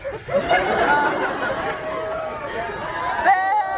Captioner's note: crowd laughs, cheers, boos